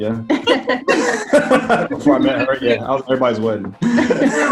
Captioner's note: laughing